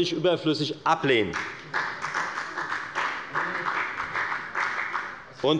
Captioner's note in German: Beifall bei der FDP